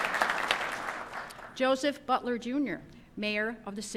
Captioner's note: applause